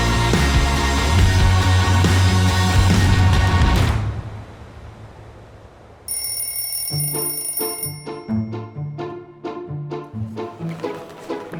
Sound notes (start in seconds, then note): 6.0 alarm ringing; 8.2 bouncy upbeat music